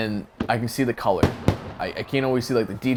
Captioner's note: fireworks banging